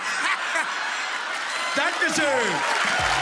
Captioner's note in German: Schreiendes Lachen